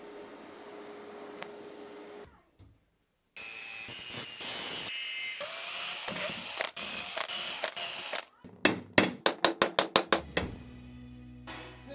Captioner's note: metal grinding